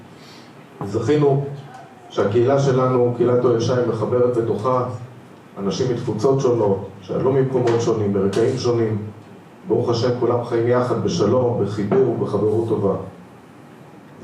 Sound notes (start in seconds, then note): 1.5 murmuring